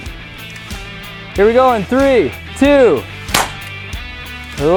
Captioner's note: BB gun fires